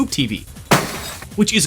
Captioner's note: crash!